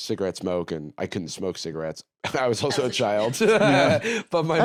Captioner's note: laughs